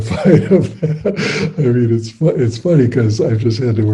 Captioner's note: laughs